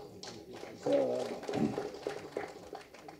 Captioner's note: claps